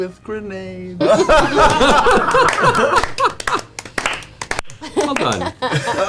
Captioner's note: all laugh and applaud